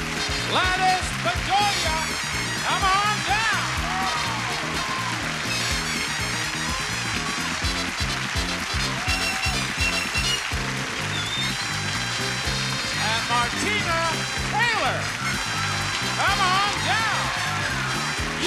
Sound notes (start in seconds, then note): 0.0 theme music continues; 4.7 audience applauding